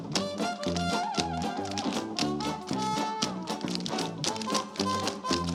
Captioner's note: rhythmic tapping continues